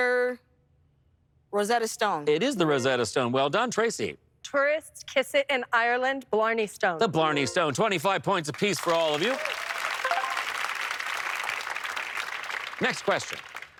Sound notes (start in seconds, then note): 10.0 bright chime; 11.0 applause